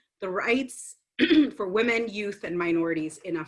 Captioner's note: clears throat